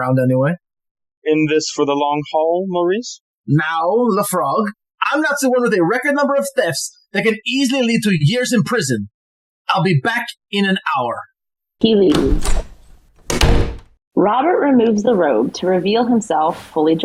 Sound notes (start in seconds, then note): 8.2 MAURICE leaves - sound of door slamming